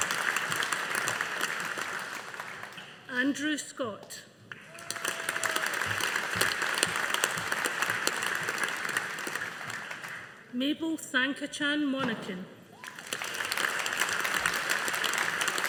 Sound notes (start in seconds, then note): 4.6 audience applauding; 12.8 audience applauding